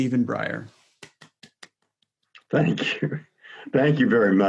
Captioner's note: claps